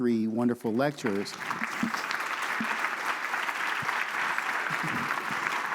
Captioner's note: audience applauding